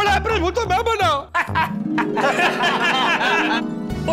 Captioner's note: laughing